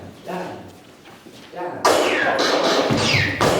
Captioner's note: gunshots